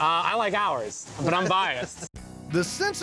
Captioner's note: laughs